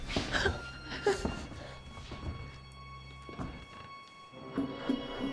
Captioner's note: suspenseful music; Claire whimpering